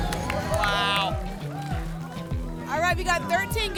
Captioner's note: applause and cheering